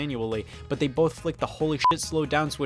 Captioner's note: beep